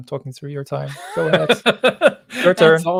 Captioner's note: laughs